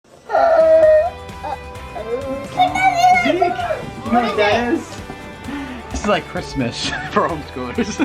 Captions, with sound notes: - Uh oh. (Children chattering) - You know what that is? This is like Christmas, for homeschoolers.